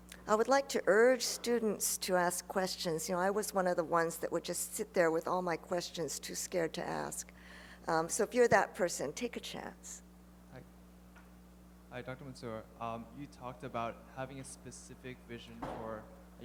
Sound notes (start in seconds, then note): 12.0 voiceover